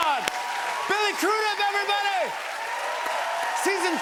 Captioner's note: cheers and applause